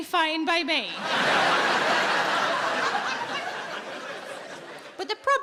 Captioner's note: audience laughing